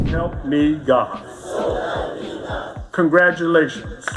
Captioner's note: crowd